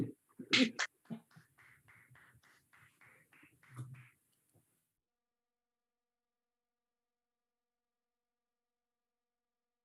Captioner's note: applause